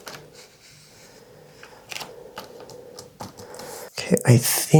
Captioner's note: nervous Breathing